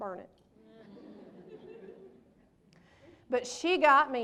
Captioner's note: laughter